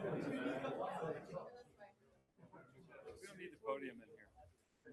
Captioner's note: group laughing